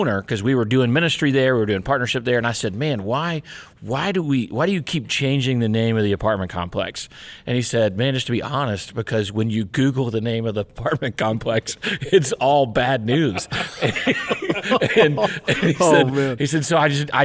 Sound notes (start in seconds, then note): 13.0 people laughing